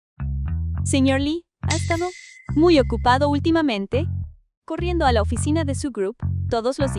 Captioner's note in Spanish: campana